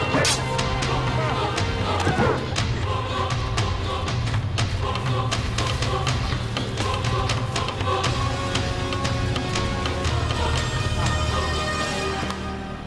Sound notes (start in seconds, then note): 0.1 metal clanging; 1.5 thud; 3.1 running through brush